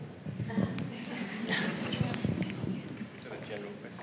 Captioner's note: background chatter